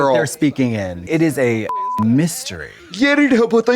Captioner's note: beep